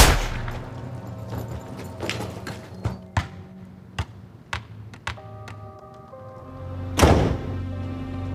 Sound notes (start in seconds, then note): 2.0 soccer ball bounces; 6.9 door slams